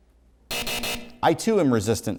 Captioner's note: hard buzzing